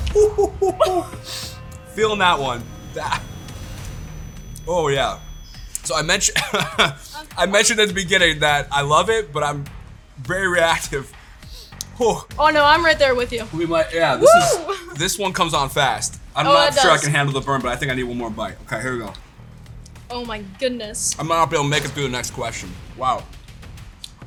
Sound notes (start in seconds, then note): 3.2 both laugh; 6.2 coughs